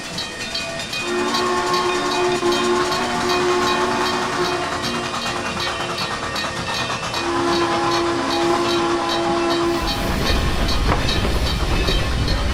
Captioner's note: Frisco 1522 whistle